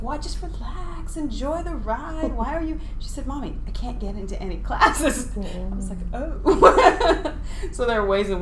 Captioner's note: laughing